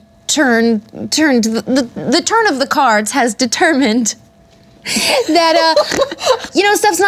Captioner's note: laughs